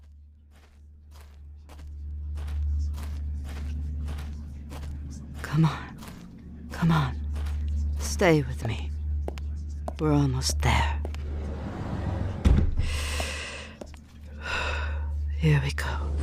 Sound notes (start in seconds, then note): 2.1 footsteps; 11.6 the pool house doors open. A metallic squeal from a tank hatch